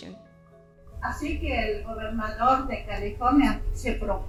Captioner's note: in Spanish